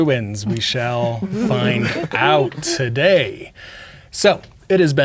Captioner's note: players chuckling